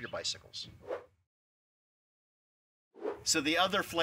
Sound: screen whooshing

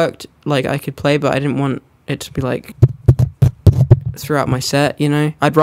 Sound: hits microphone

